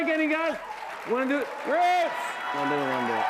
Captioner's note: cheering